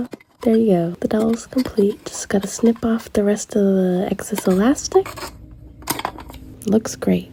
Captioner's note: snip SFX